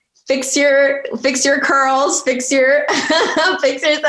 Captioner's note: chuckling